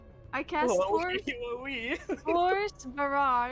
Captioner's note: laughs